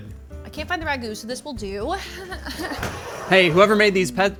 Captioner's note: chuckling